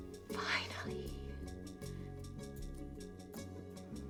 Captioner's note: whispers